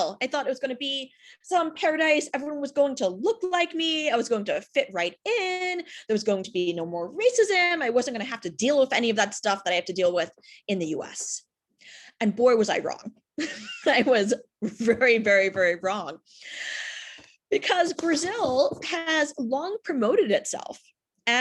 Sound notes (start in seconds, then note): 13.3 chuckles